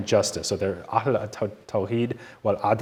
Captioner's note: speaking in foreign language